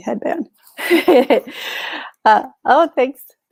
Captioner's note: chuckles